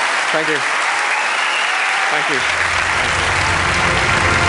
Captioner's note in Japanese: 拍手